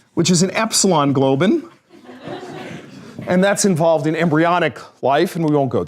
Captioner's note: laughter